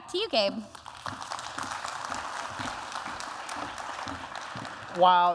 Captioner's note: applause